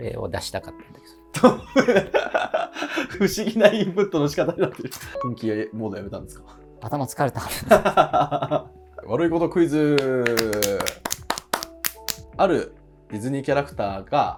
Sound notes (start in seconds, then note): 1.3 laughing